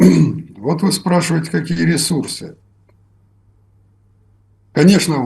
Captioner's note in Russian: откашливается